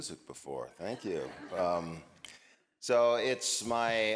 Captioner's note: audience laughing